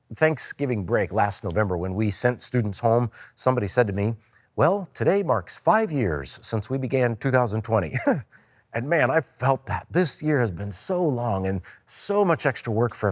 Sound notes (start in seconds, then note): 7.9 chuckles